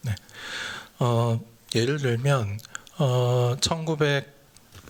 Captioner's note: speaking japanese